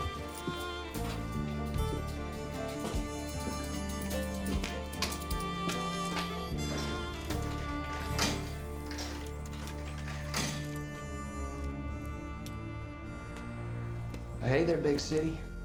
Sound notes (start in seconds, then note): 7.3 sliding coins in machine